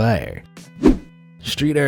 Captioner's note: air whooshing